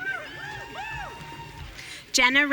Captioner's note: audience cheering